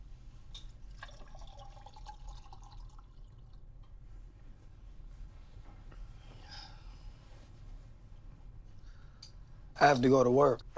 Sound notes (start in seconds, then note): 0.8 drink pouring